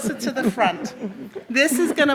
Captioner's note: audience laughs